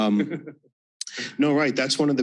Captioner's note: chuckling